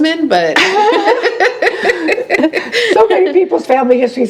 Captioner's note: laughing